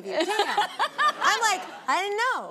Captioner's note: audience laughing; laughs